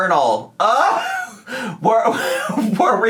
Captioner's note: laughing